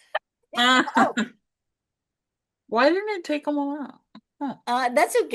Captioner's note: laughs